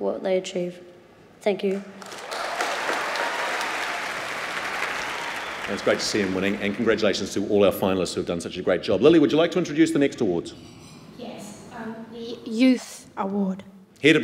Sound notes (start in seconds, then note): 1.7 applause